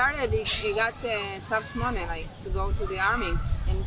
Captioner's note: hebrew